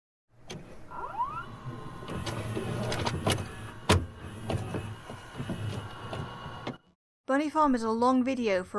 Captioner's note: VHS noises